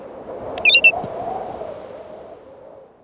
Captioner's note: bird calls